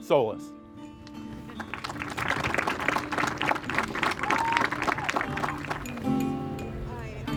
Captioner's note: applause